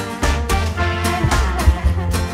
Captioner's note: quiet laughter